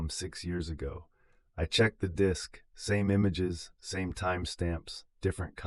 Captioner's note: exhale